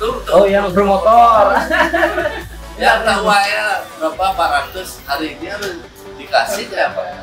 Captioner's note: laughs